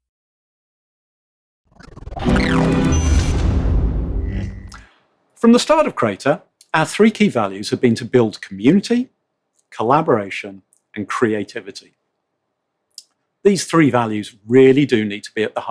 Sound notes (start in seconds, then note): 1.8 digital scratching